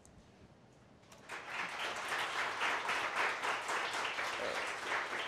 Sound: audience applause

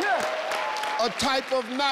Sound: crowd cheering

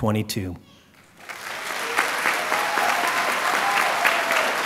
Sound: applause

